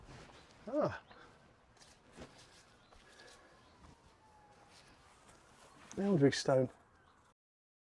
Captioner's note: footsteps